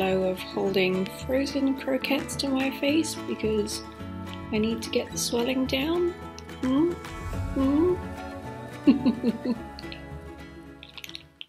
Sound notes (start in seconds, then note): 8.8 host laughing